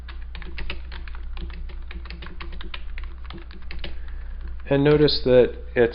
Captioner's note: typing